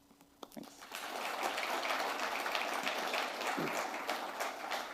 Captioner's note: applause